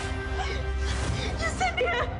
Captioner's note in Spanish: Sollozos